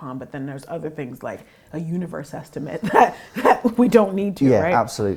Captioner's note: laugh